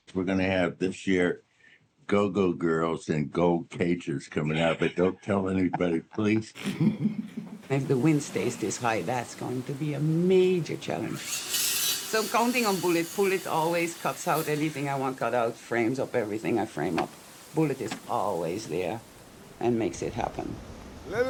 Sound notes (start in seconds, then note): 6.5 both laugh